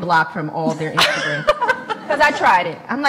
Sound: laughs

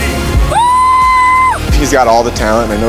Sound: screaming

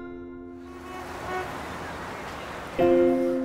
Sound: traffic sounds; tense music playing

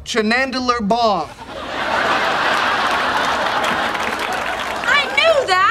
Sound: audience laughing

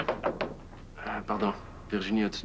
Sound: On frappe à la porte

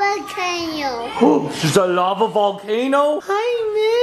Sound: gasps

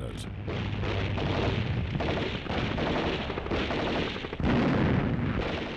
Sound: guns firing and bombs exploding

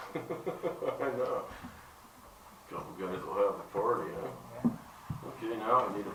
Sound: laughter

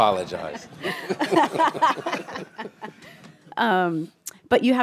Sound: laughter

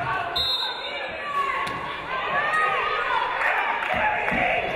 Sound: referee blows whistle

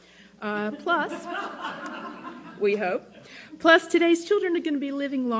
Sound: laughter

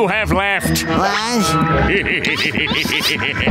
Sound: laughing

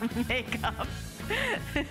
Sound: laughter

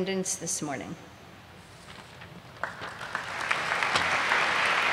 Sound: audience applauds

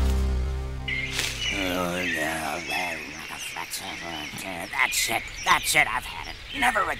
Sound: groaning

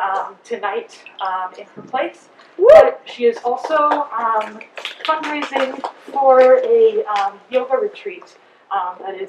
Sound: quick crowd applause

